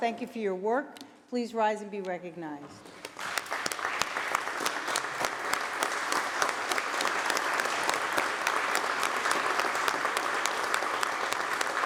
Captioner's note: applause